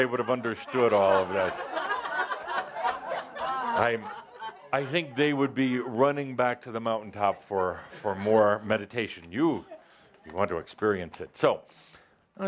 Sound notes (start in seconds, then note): 0.0 laughter